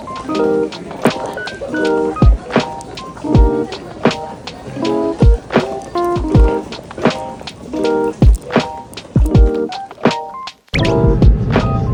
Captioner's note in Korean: 분주한 발걸음